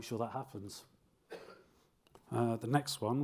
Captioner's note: audience member coughs